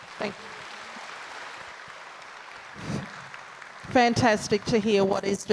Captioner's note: audience applauds